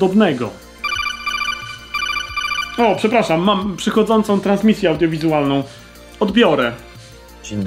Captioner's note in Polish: dzwonek komunikatora z MGS